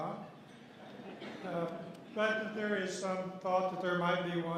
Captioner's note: laughter